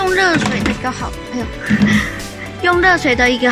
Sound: spoon dropped

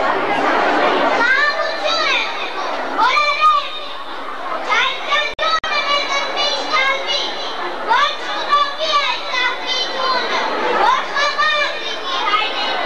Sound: children reciting some poetry

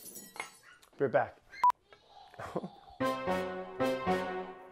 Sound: glass shattering; kids screeching; intense music

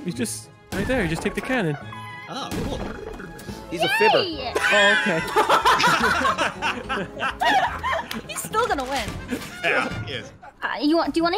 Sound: laughs

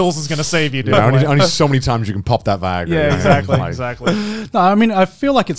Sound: all laughing

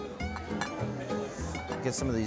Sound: spanish guitar music; cutler clattering

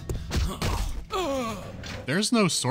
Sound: dying moan

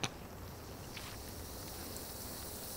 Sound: hisssssss

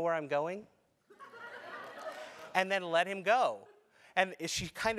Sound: laugh

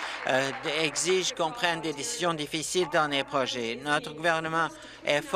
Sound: applause

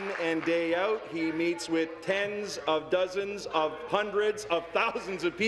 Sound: applause

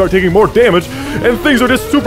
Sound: breathes in

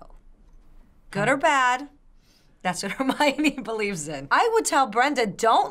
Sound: chuckles

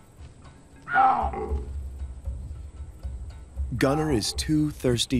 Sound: baboons barking

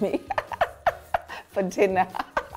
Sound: laughing

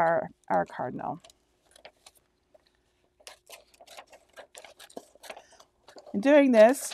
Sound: scissors slicing through plastic

